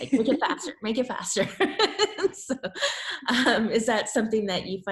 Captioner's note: laughs